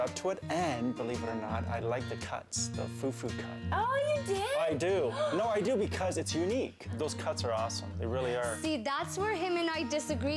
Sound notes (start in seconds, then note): 5.1 gasp